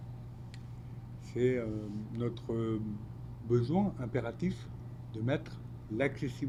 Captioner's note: speaking French